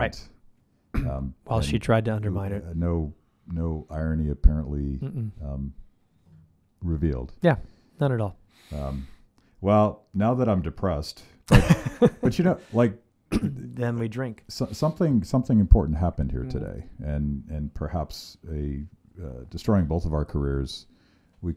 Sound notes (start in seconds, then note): 11.5 laughs